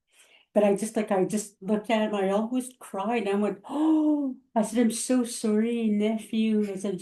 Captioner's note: gasp